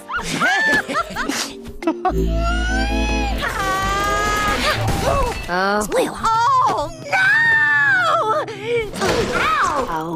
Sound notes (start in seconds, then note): 8.4 gasp